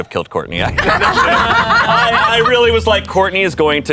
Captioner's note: everyone laughs